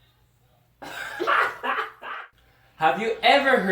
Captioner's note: laughing